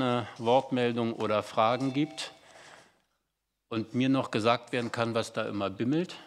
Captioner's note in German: Glocke im Hintergrund